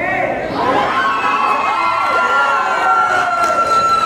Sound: cheering

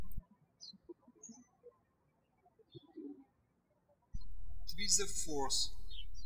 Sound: birds chirping

